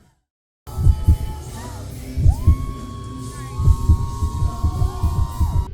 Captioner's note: steady Heart Beat; rapid Heart Beat